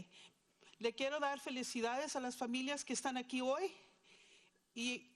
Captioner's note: speaking in foreign language